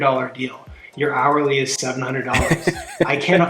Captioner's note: laughing